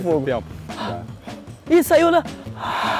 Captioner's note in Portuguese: expirando